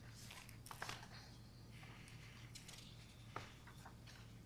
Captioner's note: papers rustling